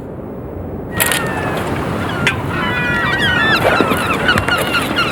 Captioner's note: birds cawing